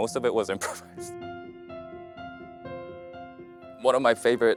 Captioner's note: laughs